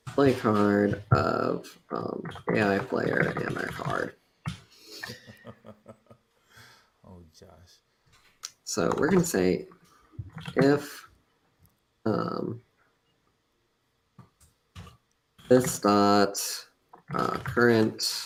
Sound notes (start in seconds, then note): 4.9 laughs